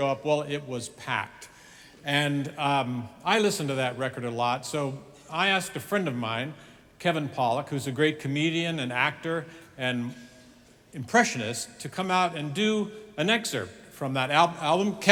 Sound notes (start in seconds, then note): none